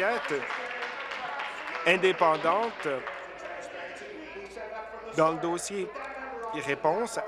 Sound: applause

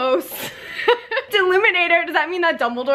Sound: snickers

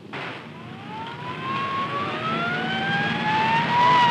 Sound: siren wailing

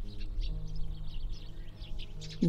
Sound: bird chatter

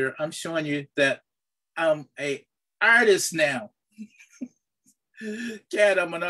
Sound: chuckles

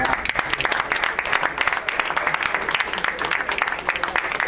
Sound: crowd applauds

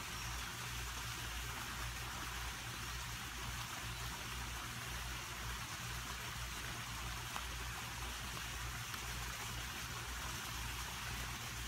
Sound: sounds of birds, waterfall, and chewing on the stick

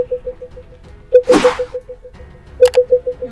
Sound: beeping continues; air whooshing; button clicks

